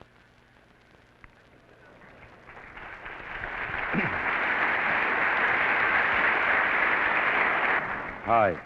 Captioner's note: applause